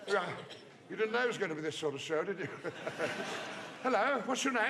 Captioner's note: laughs